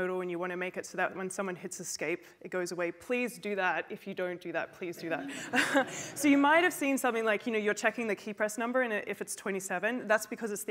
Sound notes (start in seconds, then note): 5.0 laughter; 5.2 laughs